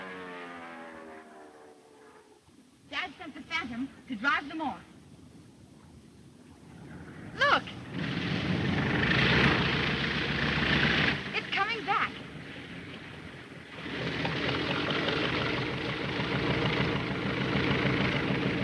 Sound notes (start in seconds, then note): 8.4 Phantom buzzes; 14.0 Phantom buzzes